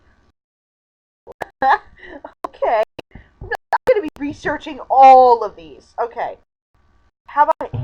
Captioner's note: mic cutting out oops